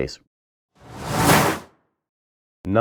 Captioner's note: logo flipping